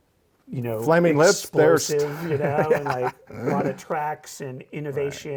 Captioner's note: laughs